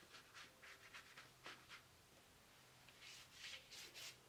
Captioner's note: paintbrush scratching